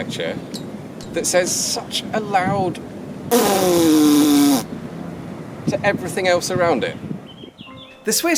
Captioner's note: raspberry